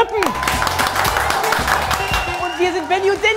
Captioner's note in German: Jubel